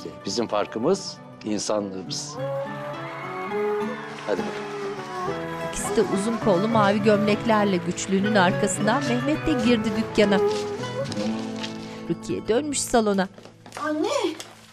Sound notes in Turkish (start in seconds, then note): 2.7 Fonda alkış sesi; 5.0 Müzik - Duygusal